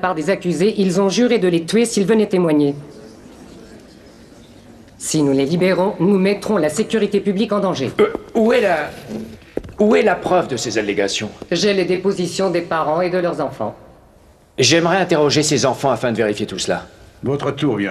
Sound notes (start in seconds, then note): 2.8 crowd murmuring